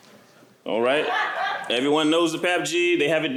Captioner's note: laughter